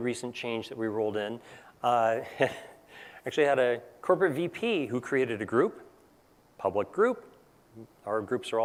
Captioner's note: laugh